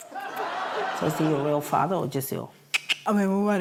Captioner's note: makes kissing noises; clicks tongue